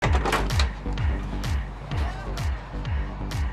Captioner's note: door clicking; upbeat party music